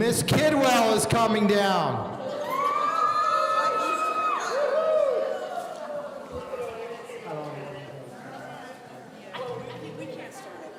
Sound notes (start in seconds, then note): 2.4 audience cheering; 4.3 people in the audience conversing